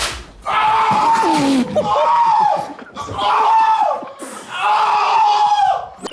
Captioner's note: elastic snaps; howling; group snickering